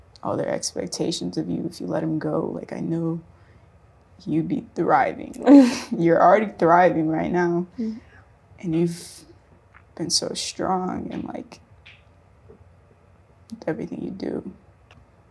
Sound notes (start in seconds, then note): 5.1 chuckles